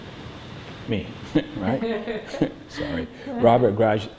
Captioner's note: laughter